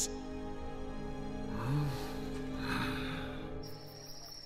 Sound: sighing

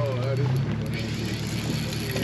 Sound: reel cranking

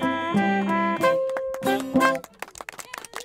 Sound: band finishes playing. Group applauds

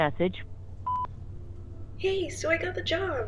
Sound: beep

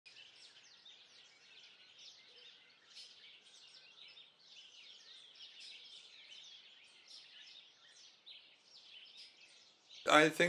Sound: birdsong

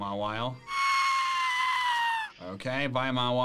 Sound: yelling

